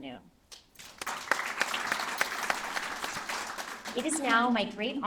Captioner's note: applause